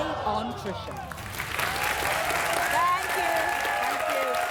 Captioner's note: audience applauds